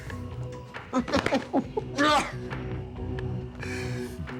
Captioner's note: intense music; laughs